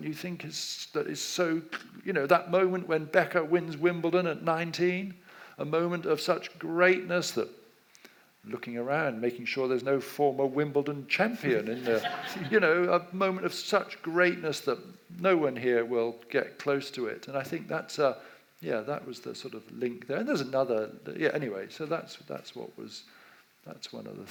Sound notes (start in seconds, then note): 11.8 audience laughs